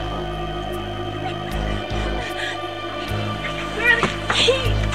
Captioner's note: short breaths